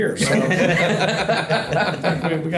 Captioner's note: group laughs